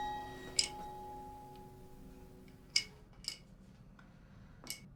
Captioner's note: tiles resting